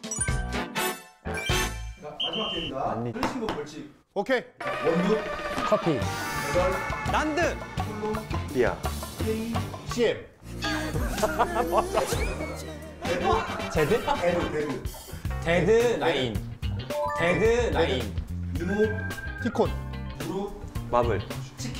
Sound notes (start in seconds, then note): 10.8 hahaha